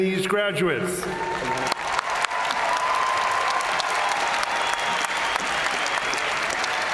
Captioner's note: crowd cheering; crowd applauding